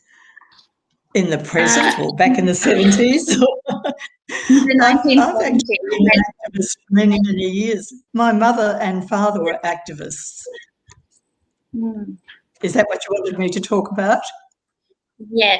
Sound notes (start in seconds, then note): 1.6 laughs; 7.1 audio distorts